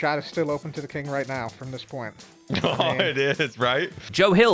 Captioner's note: laughs